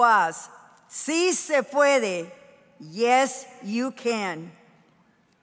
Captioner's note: speaking in foreign language